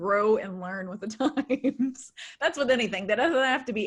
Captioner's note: laughs